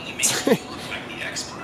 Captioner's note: cameraman laughing